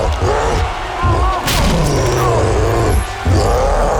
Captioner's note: cyclops growling